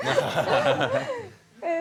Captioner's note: laughing